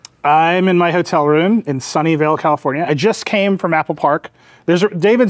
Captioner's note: none